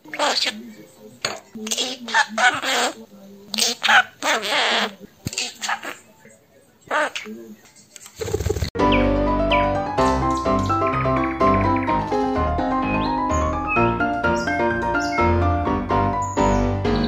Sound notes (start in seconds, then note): 8.1 waddling and wing beat